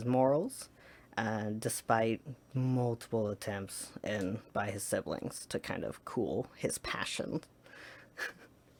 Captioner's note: laughs